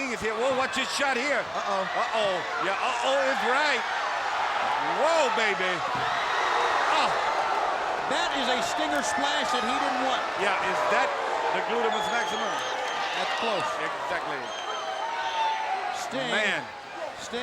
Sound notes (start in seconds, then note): 6.4 crowd cheering